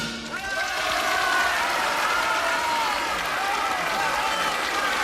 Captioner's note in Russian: аплодисменты